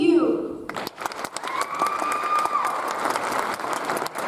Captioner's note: audience applauds